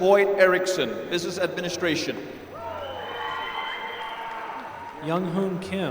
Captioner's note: applause